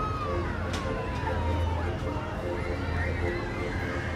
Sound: people cheering, laughter

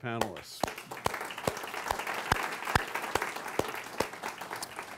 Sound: audience applauds

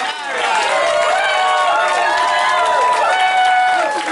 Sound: cheering

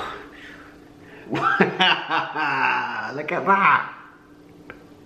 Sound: laughs

